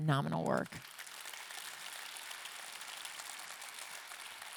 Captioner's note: audience clapping